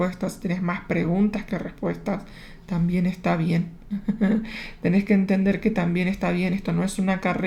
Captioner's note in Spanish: risas